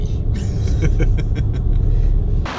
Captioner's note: laughing